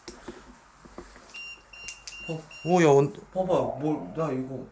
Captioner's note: beeping